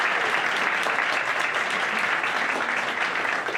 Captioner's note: audience applauds